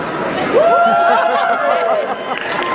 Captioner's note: crowd Wooooooos